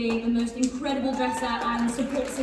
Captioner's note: cheers from Sophie's family